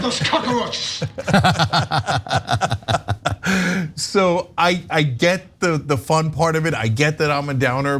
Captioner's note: laugh